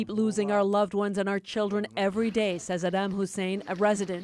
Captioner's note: speaking in alternate language